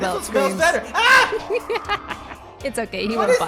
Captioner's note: shrieker shrieks; screams; cackles